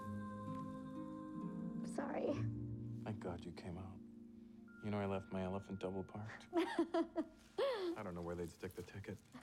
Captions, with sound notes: Sorry. - Thank God you came out. You know, l left my elephant double parked. (laughing) l don't know where they'd stick the ticket.